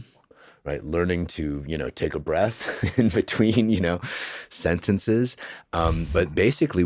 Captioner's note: chuckles